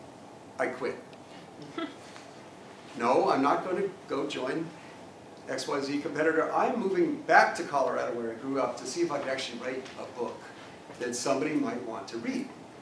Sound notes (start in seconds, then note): 1.6 laugh